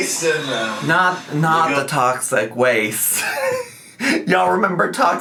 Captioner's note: laughing